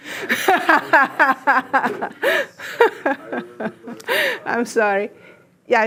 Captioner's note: laughs